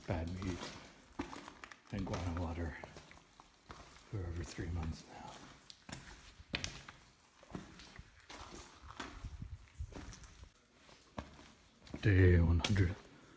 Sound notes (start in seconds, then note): 5.5 walking over rocks